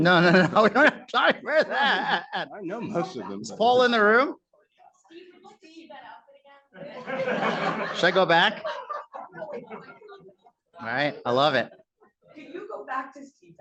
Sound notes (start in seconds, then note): 6.8 laughter